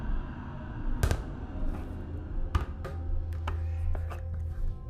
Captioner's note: light sphere thudding